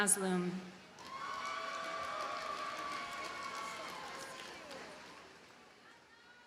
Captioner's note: audience cheers and applauds